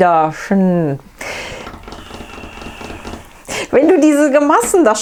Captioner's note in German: trommelt auf Tisch